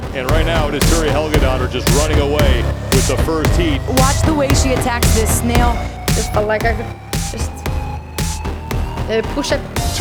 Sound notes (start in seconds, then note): none